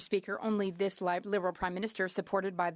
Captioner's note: speaking French